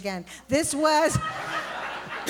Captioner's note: laughter